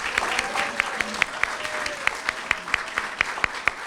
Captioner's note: applause